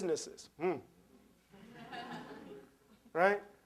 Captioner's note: laughter